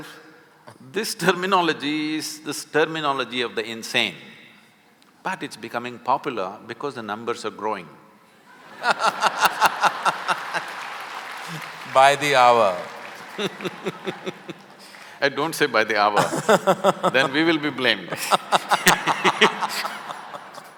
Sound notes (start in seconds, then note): 8.5 laughter/Applause; 13.3 Sadhguru laughs; 16.1 Karan Johar laughs; 19.5 laughter